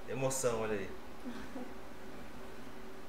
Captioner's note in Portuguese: Risos